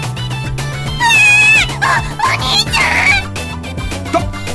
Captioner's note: screams